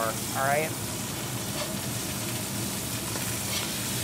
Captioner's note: sizzling